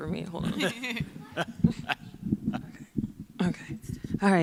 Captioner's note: people chuckling